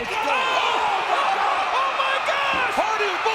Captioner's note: audience groans